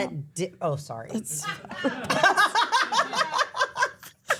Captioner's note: everyone laughs